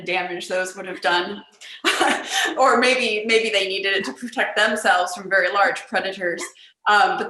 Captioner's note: laughter